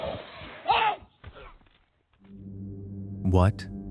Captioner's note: screaming